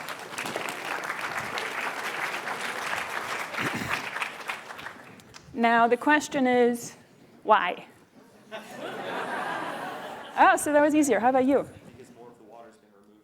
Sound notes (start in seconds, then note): 0.0 applause; 8.4 laughter